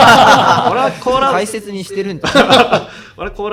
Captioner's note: laughs